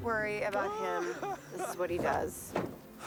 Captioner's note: laughing